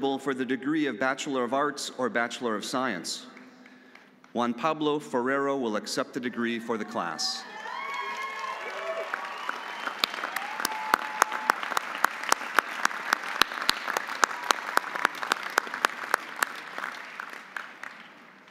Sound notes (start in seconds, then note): 6.8 audience cheering; 7.9 audience applauding